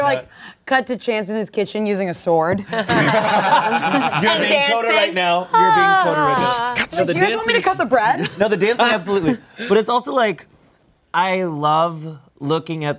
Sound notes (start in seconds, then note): 2.8 everyone laughs; 6.3 beat boxes